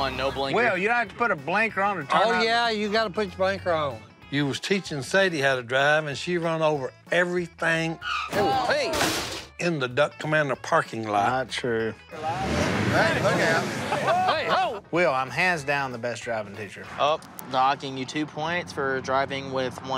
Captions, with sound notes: - Well, you don't have to put a blinker on to turn-- - Oh, yeah, you've got to put your blinker on. You was teaching Sadie how to drive, and she run over everything... - Whoa, hey. - In the Duck Commander parking lot. - Not true. [engine revs] - Hey, look out. - [laughs] - Wait! Ho! - Will, I'm hands down the best driving teacher. - Oh, docking you two points for driving with one hand.